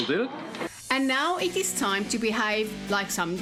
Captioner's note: narrating